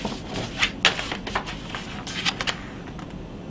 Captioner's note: pages rustling